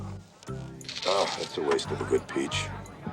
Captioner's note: sizzle